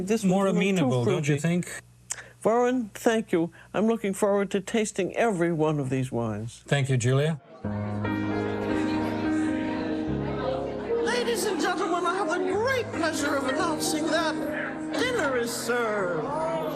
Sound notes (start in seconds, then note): 7.3 lively chatter